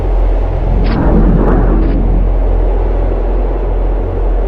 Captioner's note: portal whirring